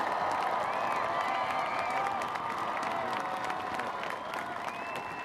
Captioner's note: cheering; applause